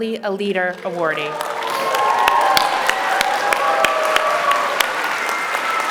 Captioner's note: applause